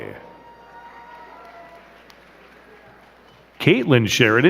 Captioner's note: crowd cheering and clapping